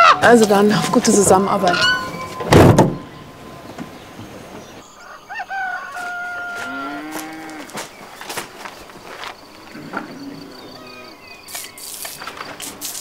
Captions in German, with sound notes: Dann, auf gute Zusammenarbeit. (Hahn kräht.)